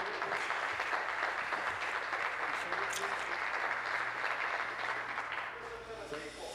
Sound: applause

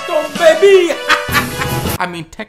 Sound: loud laughter

